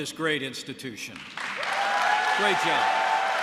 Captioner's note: applause